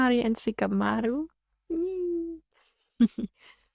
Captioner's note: giggles